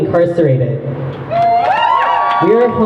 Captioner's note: crowd cheers